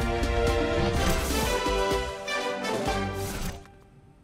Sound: none

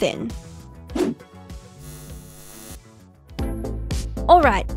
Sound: electric buzzing; upbeat music

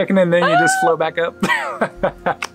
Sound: laughs

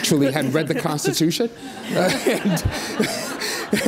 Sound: audience laughs

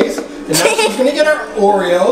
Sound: chuckles

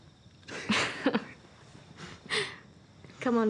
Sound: laughter

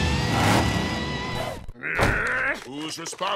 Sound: groaning

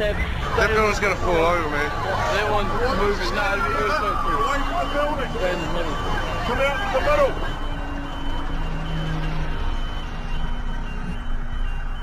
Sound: sirens, alarms, indistinct voices, sound of heels walking on pavement

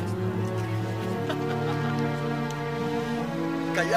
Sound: laughs

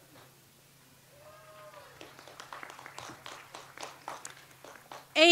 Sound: audience applauds

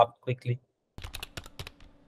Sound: typing

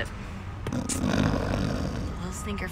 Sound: snoring

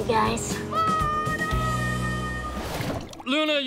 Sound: screaming

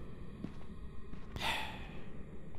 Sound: sighs

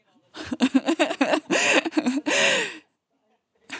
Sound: giggling

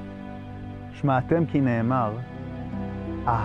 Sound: speaking in Hebrew

